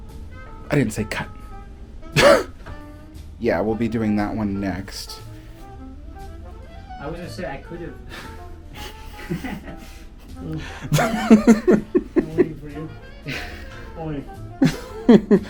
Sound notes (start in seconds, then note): 8.7 both of us laughing